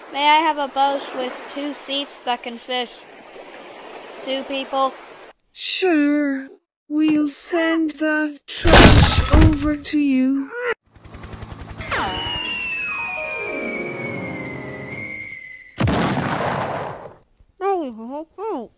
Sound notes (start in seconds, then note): 15.8 boom